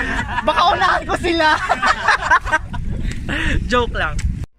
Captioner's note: laugh